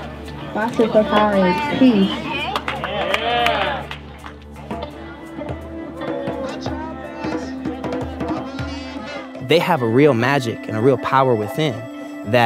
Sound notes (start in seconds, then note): 2.0 group applauding